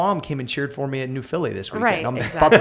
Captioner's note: laughter